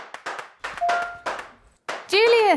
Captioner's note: gentle notification tone; phone dings